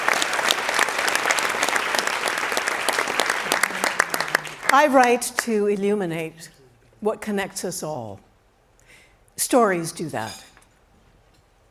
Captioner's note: cheering and Applause